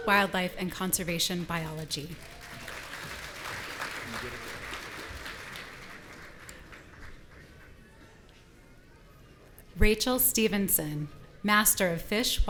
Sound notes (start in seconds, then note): 2.0 audience applauding